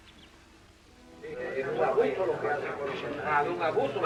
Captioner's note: spanish conversation